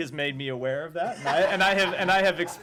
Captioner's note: laughter